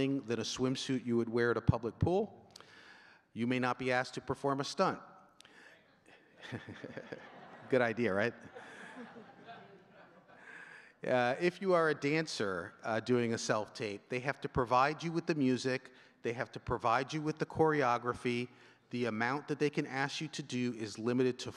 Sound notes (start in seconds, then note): 6.1 chuckles; 9.3 audience chuckling